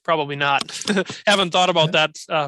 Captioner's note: laughs